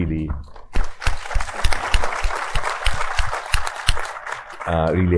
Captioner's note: audience applauding